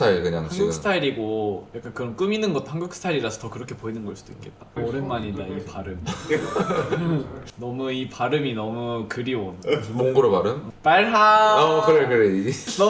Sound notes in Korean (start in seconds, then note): 6.0 웃음